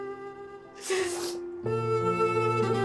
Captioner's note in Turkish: ağlıyor